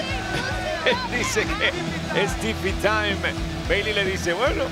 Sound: laugh

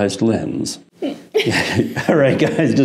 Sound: laughs

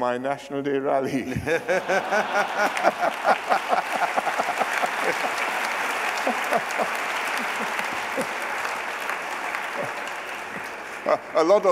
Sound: laughter and applause

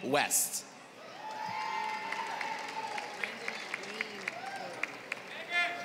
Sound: applause

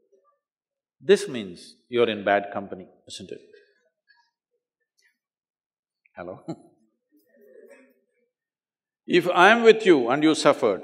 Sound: laughs

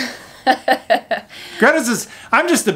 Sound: laughs

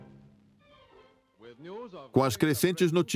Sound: dramatic music; voiceover

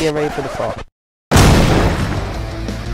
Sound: explosions!

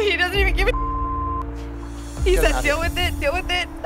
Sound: beep

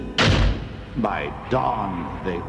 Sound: door slams

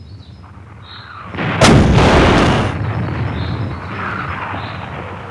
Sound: cannon shoots

